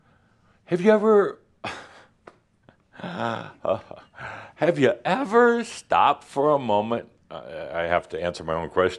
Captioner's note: chuckles slightly